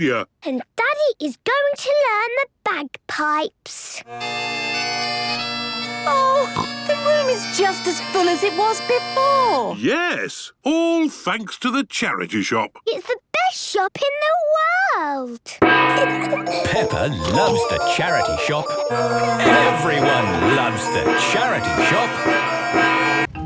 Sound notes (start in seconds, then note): 4.2 dissonant music; 15.4 kids giggling; 21.9 dissonant music